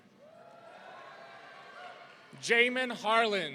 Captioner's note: audience cheering